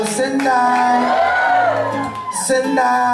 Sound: cheering

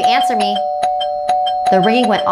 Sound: doorbell rings

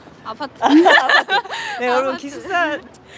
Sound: laughing

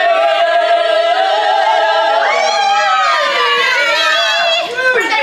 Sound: cheering and singing

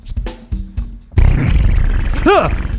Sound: fart

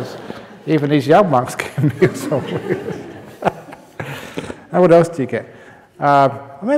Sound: laughter

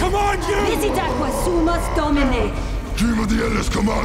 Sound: speaking foreign language

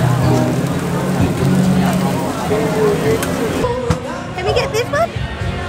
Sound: meat sizzling

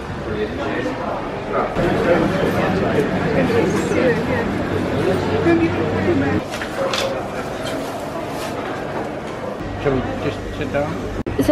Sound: background noise of people chatting

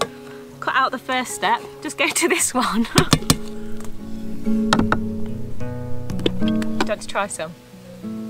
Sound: laughs

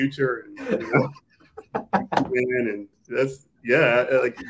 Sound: all laughing

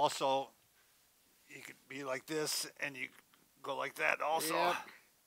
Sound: grunts

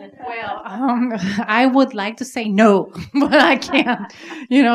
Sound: laughing

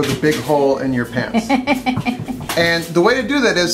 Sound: laughs

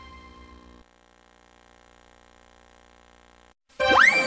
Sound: VHS static

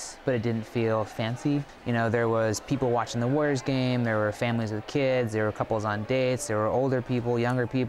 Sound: none

